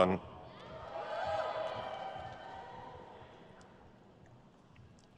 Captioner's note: crowd cheers